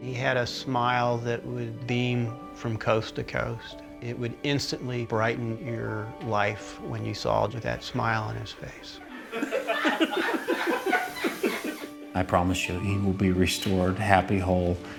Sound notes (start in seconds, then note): 9.1 laughter